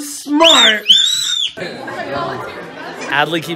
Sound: squealing

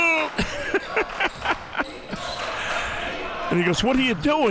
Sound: laughs

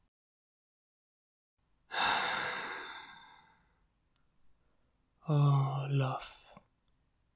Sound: sigh

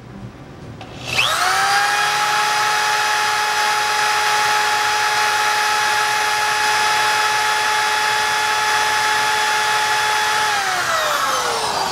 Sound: drill whirs

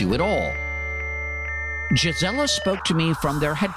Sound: transmission beeping

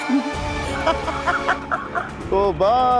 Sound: laughing

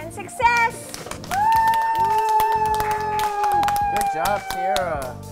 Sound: cheering

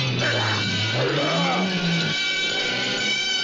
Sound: yelling

